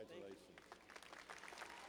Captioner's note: applause